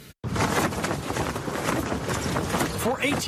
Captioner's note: flag rustling